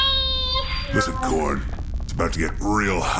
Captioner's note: transmission-end noise